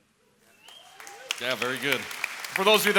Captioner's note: applause